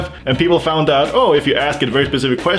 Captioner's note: none